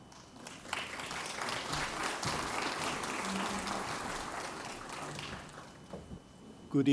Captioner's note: applause